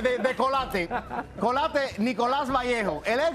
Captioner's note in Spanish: risas